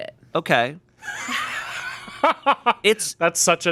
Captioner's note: laughing